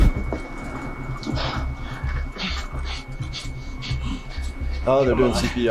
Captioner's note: heart monitor flatline beeping